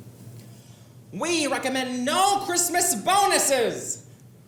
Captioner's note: excitedly